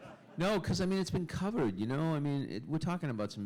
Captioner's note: laughter